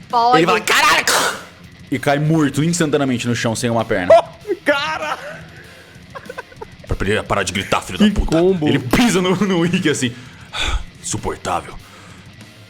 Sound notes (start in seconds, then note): 10.1 sighs